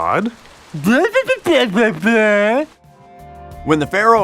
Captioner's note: mockingly